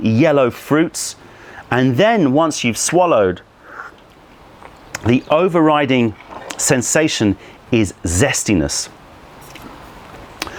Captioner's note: sips tea